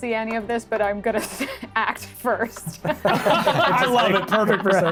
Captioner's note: laughs